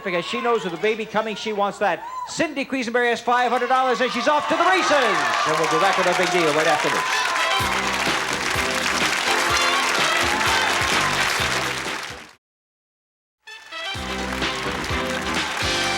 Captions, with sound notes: with a baby coming, she wants that. Cindy Quisenberry has $500 and she's off to the races! And we'll be back with our Big Deal right after this. (audience applause) (theme music playing) (theme music playing) (audience applause)